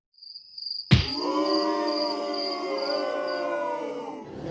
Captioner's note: crowd booing